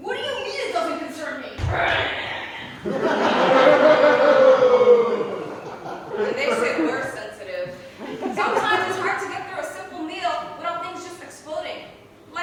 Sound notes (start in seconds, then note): 1.7 boos; 1.7 groans and stomps off